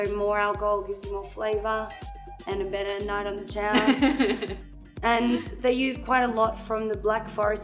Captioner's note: laughs